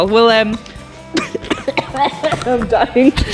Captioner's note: chokes!